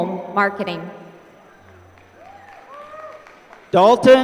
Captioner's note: applause